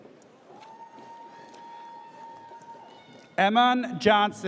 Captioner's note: audience cheers